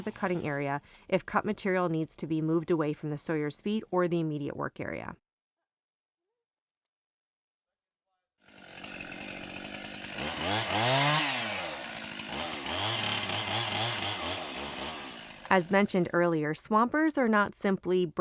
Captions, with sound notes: cutting area if cut material needs to be moved away from the Sawyer’s feet or the immediate work area [sound of chainsaw] As mentioned earlier Swampers are not simply